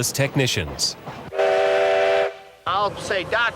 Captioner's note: steam train whistles